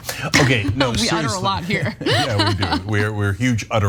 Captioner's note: laugh